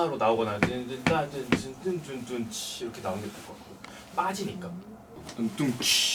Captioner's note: demonstrating it with his mouth drum